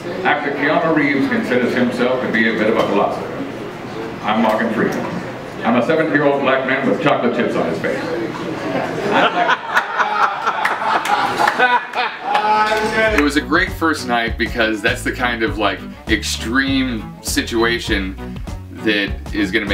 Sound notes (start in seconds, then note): 8.8 laughter